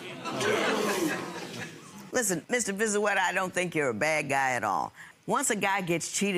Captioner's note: audience groans